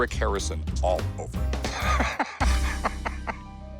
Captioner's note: laughs